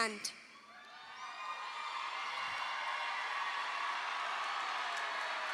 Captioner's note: audience applauding